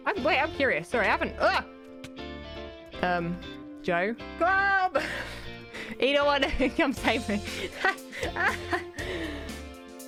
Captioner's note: laughing